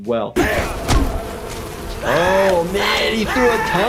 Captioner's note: screaming